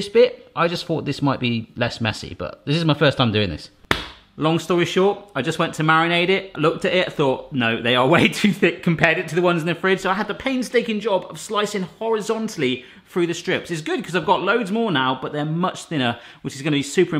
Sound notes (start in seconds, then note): 3.9 slaps table; 7.6 laughing